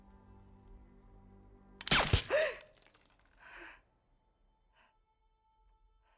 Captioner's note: fires gun; gasps